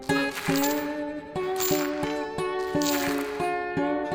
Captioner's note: dirt crunches